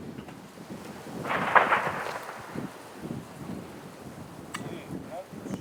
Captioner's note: wind roaring; distant explosions rumbling